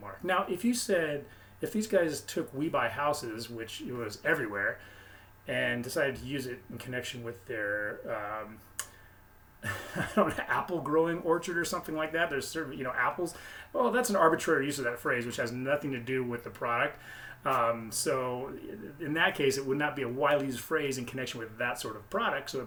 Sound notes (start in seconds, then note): 9.6 laughs